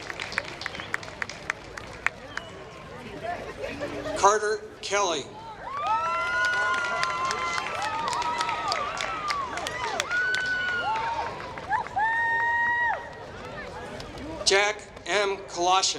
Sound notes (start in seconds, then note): 0.0 applause; 5.7 applause